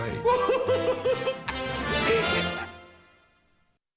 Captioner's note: laughing